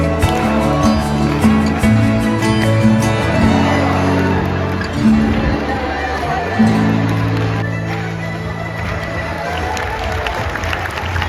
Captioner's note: applause